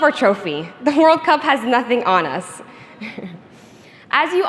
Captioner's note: chuckles